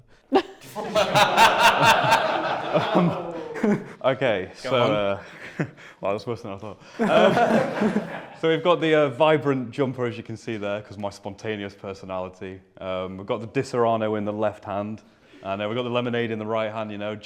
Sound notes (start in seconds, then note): 0.3 laughter; 6.9 laughter